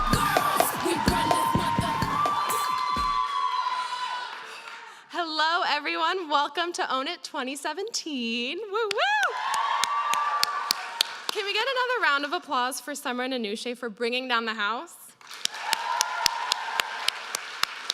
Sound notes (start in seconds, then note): 8.9 cheering; 15.2 applause